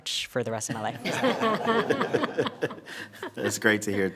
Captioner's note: board members laughing